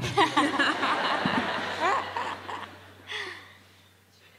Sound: attendees laughing

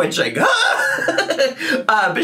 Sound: laughing

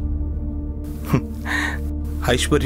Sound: chuckles

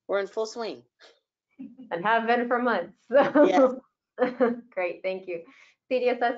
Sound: laughs

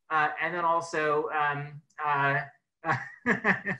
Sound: laughs

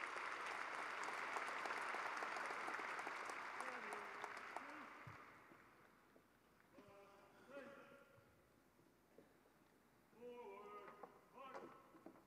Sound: cheering and applause

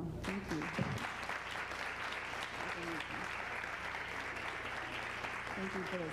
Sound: applause

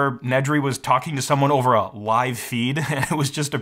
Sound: laughs

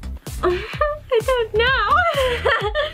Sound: laughs

